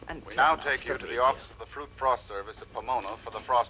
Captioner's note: man on radio